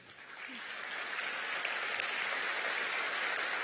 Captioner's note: applause